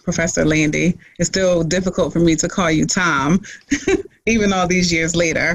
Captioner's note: laughs